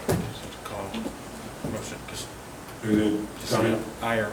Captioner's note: soft speaking